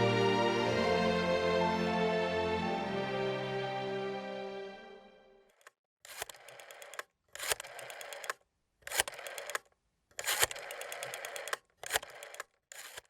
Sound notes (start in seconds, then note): 0.0 gentle music fades; 6.0 rotary dial clicking